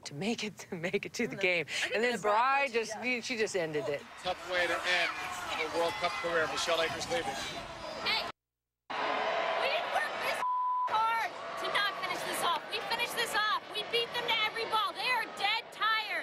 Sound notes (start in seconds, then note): 6.9 tv announcer